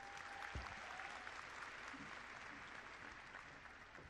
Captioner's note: clapping